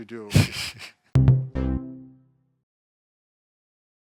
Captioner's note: laughs